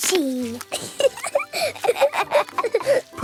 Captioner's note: both laughing